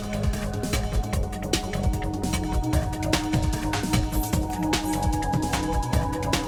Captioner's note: lady whispering "secrets"